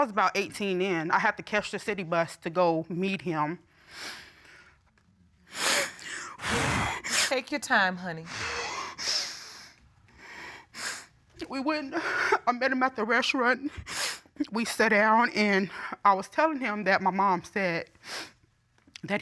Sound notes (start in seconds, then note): 5.5 sniffles, blows nose; 9.0 sniffling